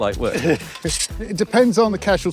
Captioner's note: laughs